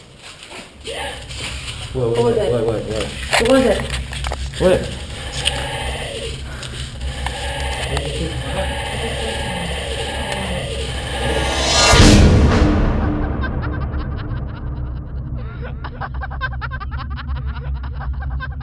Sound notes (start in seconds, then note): 1.0 Alexis gasps; 5.7 disembodied Voice; 11.6 dramatic music; 13.3 woman laughing; 13.6 dramatic, tense music